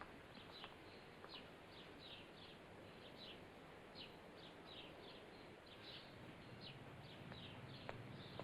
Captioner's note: birds chirping; footsteps; birds chirping; footsteps